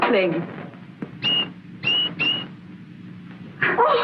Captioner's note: tweet, tweet, tweet